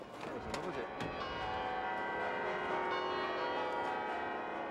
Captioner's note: church bells pealing